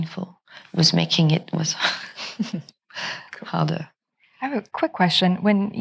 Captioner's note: chuckles